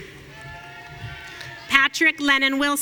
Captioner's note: audience cheering